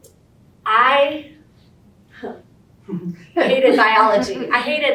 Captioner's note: audience chuckles